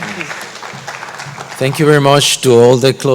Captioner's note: applause